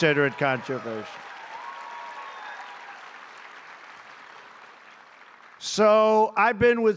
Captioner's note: applause